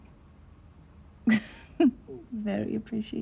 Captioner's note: Diana laughing